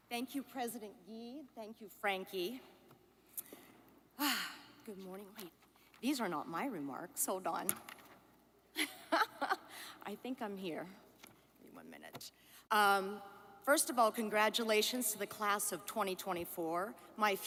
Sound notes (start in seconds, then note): 9.6 laughs